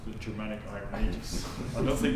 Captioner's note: laughter